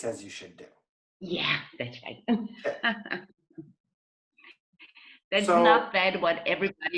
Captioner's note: laughs